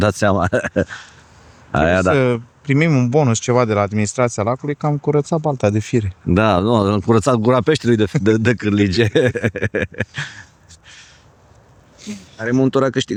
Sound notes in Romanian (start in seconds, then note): 10.0 râsete